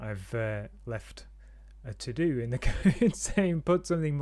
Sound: giggles

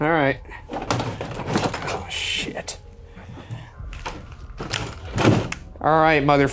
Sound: door shaking

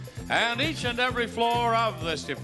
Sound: none

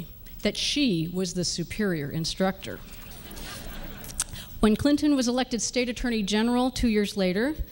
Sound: laughter

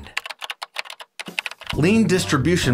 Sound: keyboard clicking

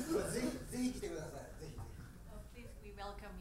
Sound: speaking in foreign language

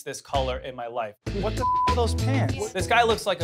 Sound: beep

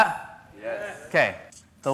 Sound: crowd

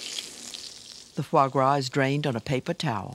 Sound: voiceover

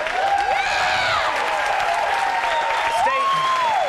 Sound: audience applauds

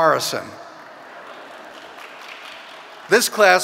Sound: audience laughing

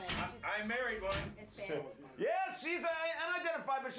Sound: scattered murmurs

